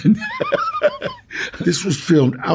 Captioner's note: Danny chuckles